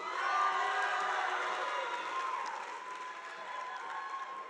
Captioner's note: audience applauding